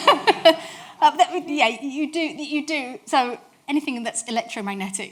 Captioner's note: audience laughs